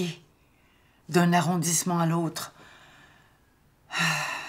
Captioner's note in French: soupir